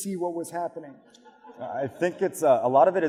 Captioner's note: audience laughs